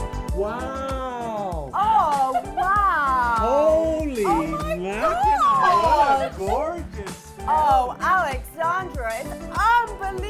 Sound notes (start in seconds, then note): 4.2 laughs